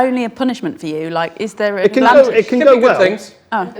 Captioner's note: overlapping chattering